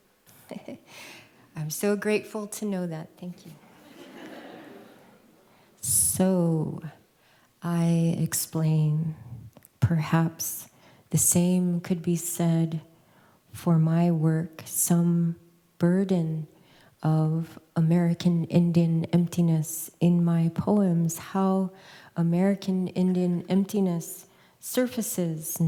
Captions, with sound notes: [CHUCKLES] I'm so grateful to know that. Thank you. [LAUGHTER] "So I explain, perhaps the same could be said for my work, some burden of American Indian emptiness in my poems, how American Indian emptiness surfaces